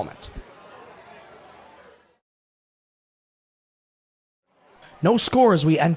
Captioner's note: indistinct chatter